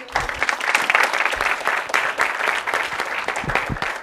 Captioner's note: audience clapping